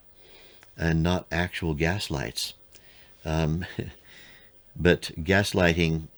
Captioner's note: chuckles